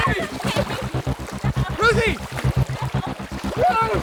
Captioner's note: crying